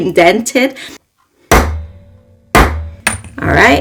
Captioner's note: banging sounds